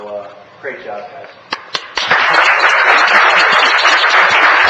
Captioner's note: applause